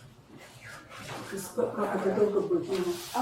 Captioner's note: speaking in a foreign language